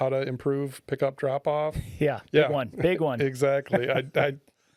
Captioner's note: laughing